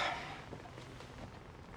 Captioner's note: sighing